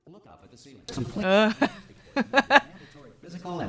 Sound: laughing

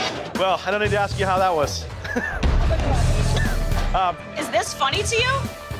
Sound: chuckling

